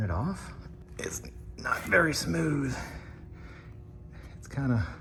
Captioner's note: straining